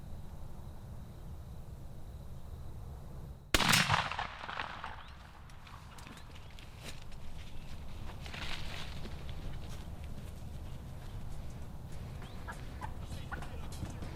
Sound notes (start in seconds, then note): 3.5 gunshot blasts